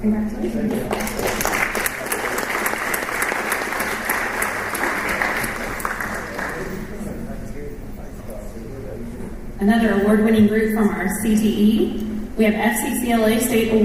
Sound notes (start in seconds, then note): 0.6 applause